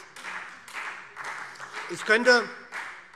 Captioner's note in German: Beifall SPD